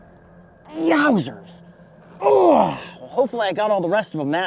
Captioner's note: groans